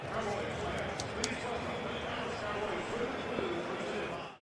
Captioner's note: pa announcement